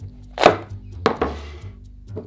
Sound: knife cutting

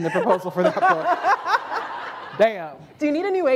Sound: laughter

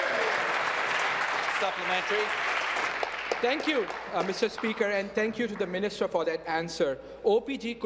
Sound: applause

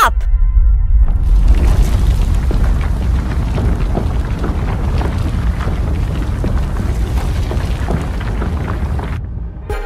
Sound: ground Rumbles

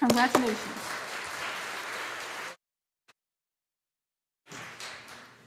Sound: audience applauding

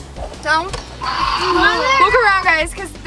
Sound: static crackles

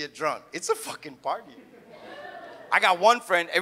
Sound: audience laughs

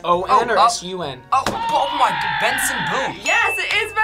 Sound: buzzer shouts

